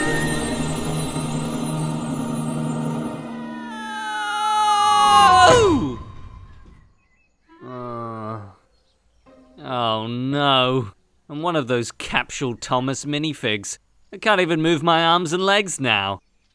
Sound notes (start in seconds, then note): 3.2 screams; 7.5 groans